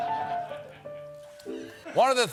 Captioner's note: piano riff; laughter